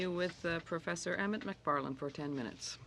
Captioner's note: speaking French